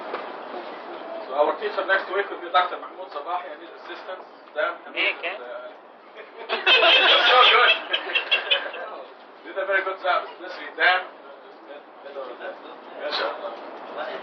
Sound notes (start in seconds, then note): 6.1 Gülüşmeler